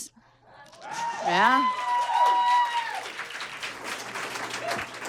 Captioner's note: audience cheers and applauds